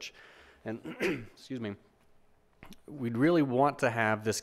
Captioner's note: clears throat